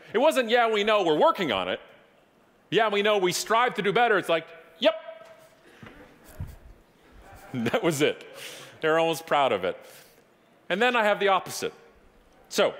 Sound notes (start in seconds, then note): 7.2 audience laughing